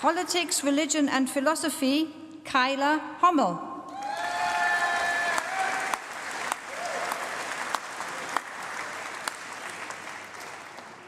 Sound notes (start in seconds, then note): 0.0 applause; 3.9 applause